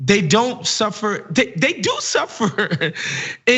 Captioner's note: laugh